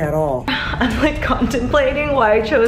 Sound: sigh

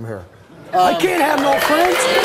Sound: audience applauds

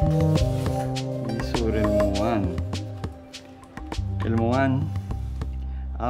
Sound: upbeat instrumental music; speaking in foreign language

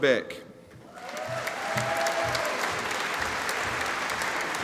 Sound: audience applauding

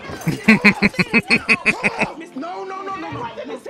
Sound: laughing

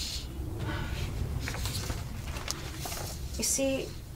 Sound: paper rustling

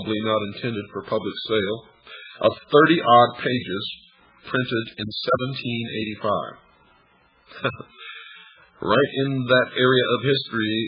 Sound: laughs

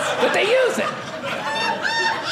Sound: audience laughing

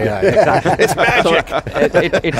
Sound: laughter

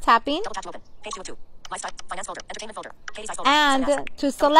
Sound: iphone sounds

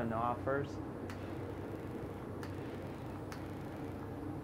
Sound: clicks and whirs

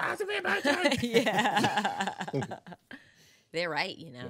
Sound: group laughing

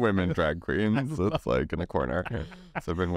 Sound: laughs

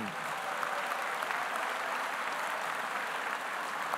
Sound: audience applauding

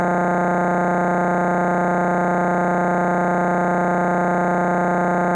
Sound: electronic buzzing continues

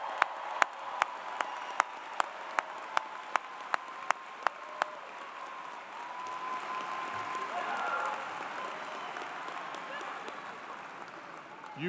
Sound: cheers and Applause

